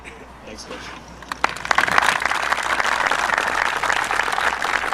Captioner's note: audience applauding